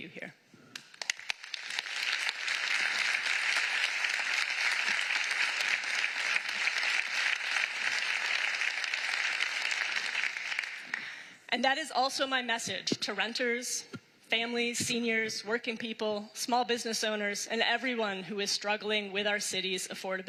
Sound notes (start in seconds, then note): 12.4 applause